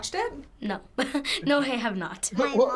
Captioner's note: chuckles